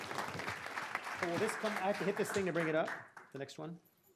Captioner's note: applause